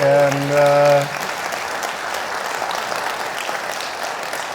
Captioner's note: audience clapping